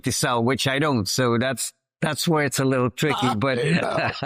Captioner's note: laughs